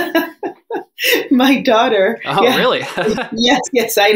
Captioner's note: laughs